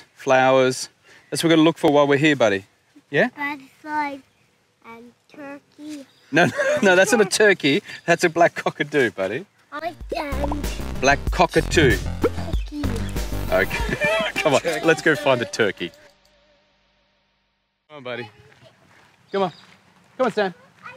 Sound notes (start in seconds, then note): 13.4 laughing